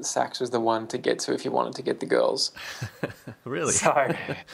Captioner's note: laughs